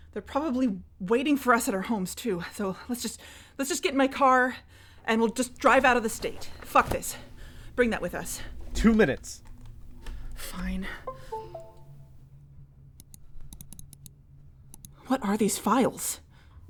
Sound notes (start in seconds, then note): 13.0 clicking